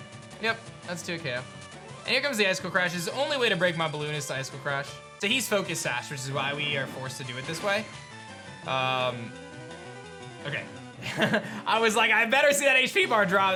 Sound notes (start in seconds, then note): 11.0 chuckles